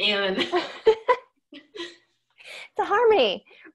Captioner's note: laughing